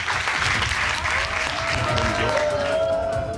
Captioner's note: audience cheers, applauds